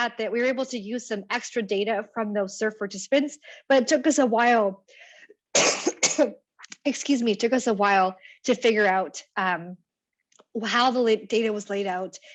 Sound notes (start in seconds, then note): 5.5 coughs